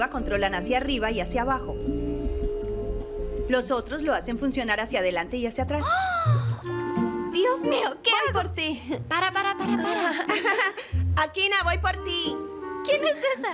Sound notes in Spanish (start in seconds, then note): 5.8 suspiro; 9.2 risas